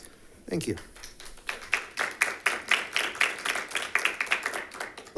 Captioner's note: members clapping